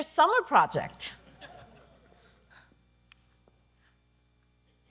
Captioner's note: audience laughing